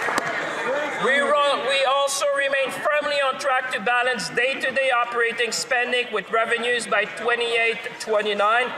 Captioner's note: applause